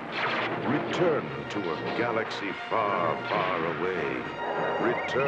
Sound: man Announcing

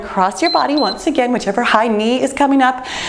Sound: timer beeps

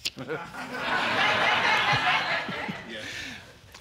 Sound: audience laughing

